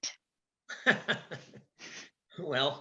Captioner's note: laughs